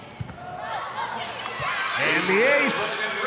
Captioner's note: ball thumping; audience cheering